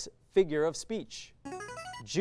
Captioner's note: signaling device tone